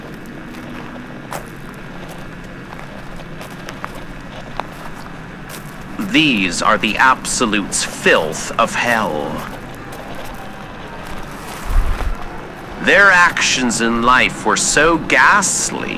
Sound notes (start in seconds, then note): 0.8 both walking on gravel-strewn ground fx; 6.0 discordant screaming of souls fx